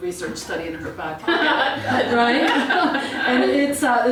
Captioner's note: laugh